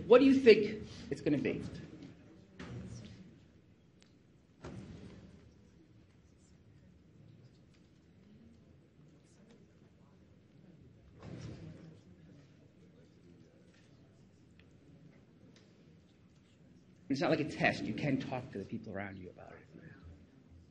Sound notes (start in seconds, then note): 3.7 crowd discusses quietly